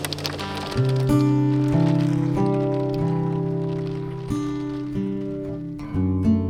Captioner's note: hail pattering; soft guitar music